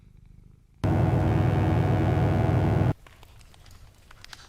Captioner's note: electric buzzing